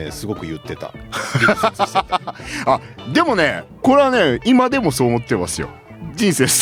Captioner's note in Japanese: 笑い